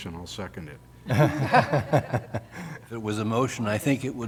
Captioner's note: laughter